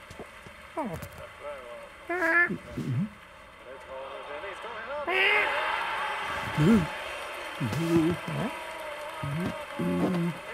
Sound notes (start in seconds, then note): 4.7 football crowd cheering!